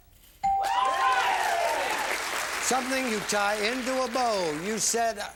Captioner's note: bell; applause